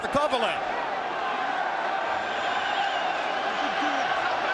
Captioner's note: crowd shouting